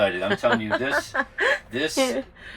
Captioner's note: laughing